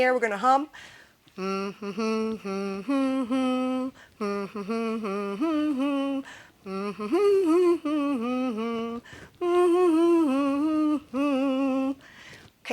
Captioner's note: humming "Happy Birthday"